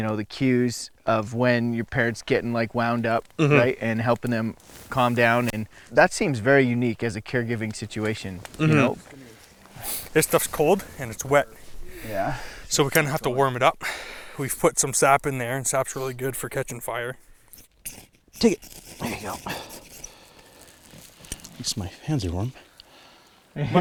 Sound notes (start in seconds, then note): 17.5 metal scratches